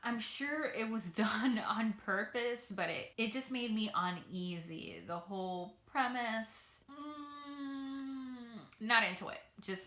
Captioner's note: hums